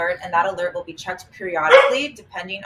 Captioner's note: dog barking